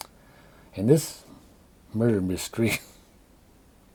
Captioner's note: cough